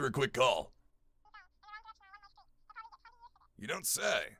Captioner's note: weird sound coming from phone